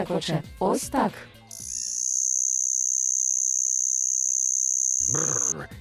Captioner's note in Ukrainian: стрекіт комахи